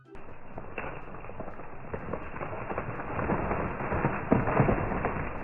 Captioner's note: branches cracking